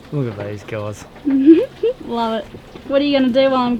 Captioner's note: giggles